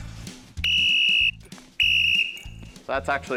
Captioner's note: whistle blows